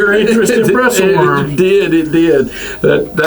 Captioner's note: laughs